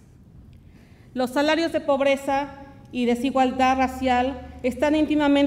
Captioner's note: speaks Spanish